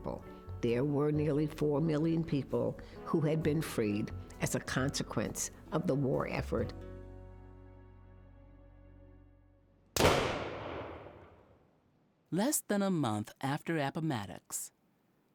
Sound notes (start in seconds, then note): 9.9 single gunshot